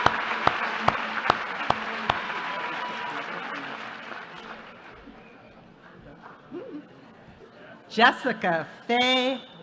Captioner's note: applause